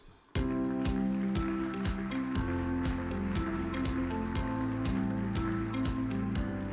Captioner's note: upbeat music; audience applauds